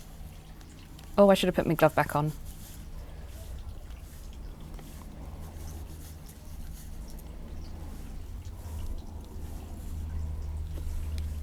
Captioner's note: tapping